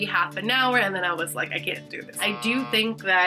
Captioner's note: buzzer rings